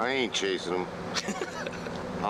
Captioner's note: laughs